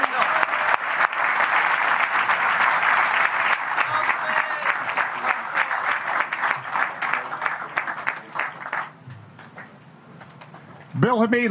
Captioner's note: applause